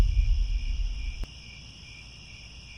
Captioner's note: crickets